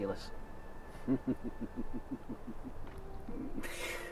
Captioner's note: laughing